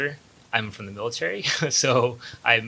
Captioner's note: laughs